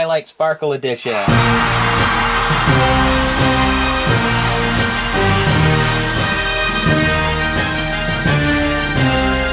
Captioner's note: cheers